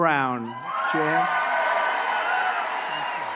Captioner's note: applause